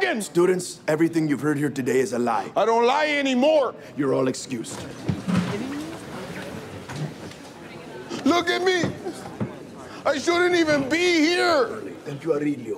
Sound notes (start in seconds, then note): 3.8 students chattering; 4.7 chairs and tables clanging